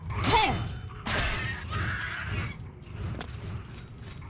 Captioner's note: goblins yelling